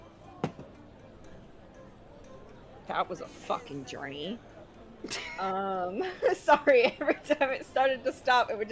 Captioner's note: laughs